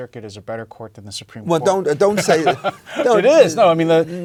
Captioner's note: laugh